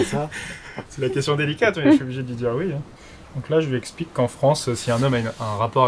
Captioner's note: laughs